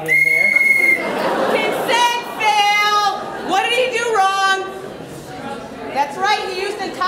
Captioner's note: whistle